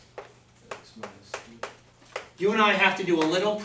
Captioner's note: voiceover